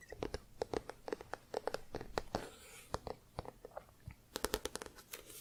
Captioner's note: tapping on spine; tapping on book